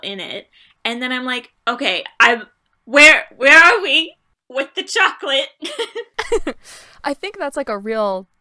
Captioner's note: laughter